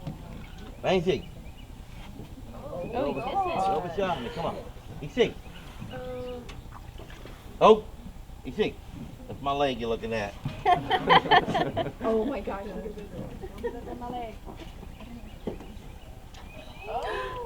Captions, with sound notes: That's my leg you're looking at. [Laughter]